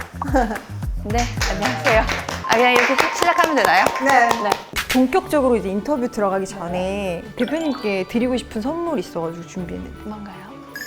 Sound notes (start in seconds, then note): 1.4 awkwardly applause for the start